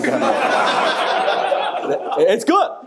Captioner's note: audience laughing